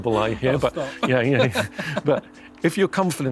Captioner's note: laughing